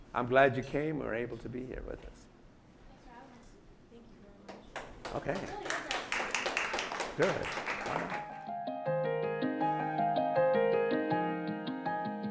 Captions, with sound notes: I'm glad you came, were able to be here with us. - Thanks for having us. - Thank you very much. - Okay. (audience applauding) Good. (slow music)